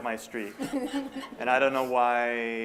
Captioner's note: laughter